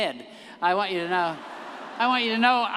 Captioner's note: everyone laughing